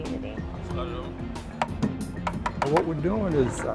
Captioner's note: hammering